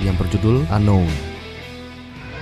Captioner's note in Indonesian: bahasa Welsh